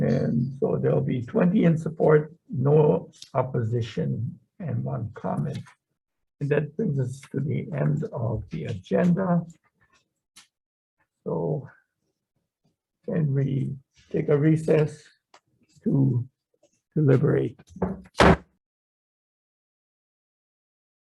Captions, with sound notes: And so there'll be 20 in support, no opposition, and one comment. And that brings us to the end of the agenda. So, can we take a recess to deliberate? (gavel slams)